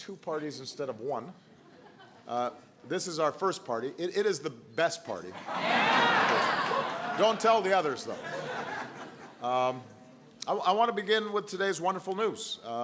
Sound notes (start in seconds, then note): 5.3 laughter